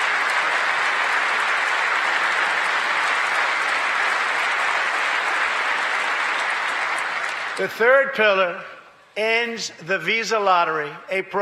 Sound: applause

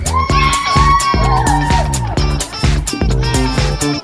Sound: kids cheering

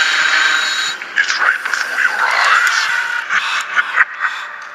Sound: laughing

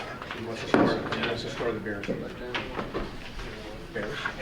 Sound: people chattering

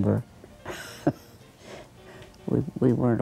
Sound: laughs

